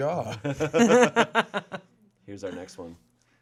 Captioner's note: group laughing